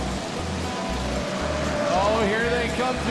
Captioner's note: tires squealing